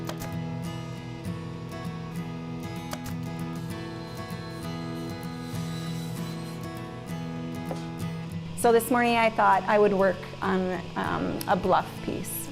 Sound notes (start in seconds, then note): 0.1 stapler clicking; 2.8 saw whirring